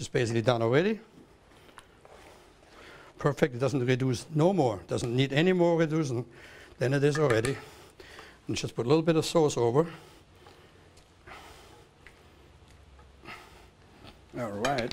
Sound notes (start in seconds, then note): none